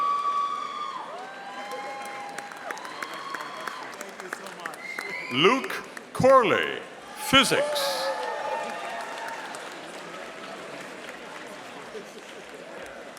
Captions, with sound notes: (audience cheering) Luke Korley, Physics. (audience applauding)